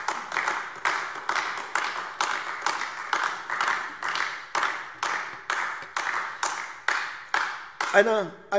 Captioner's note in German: Beifall AfD